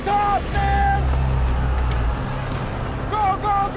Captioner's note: shouting